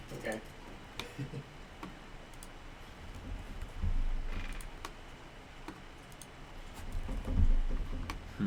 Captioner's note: laughs